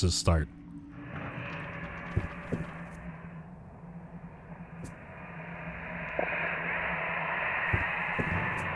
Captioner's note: foreboding echoes flow through the air; knocking and pounding comes from beyond the walls